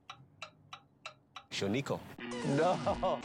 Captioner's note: speaking Japanese